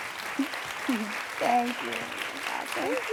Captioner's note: applause